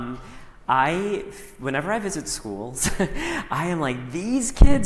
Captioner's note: chuckles